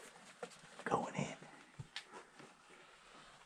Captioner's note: whispers